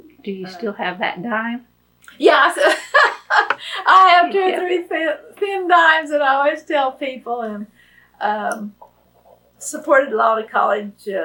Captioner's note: laughs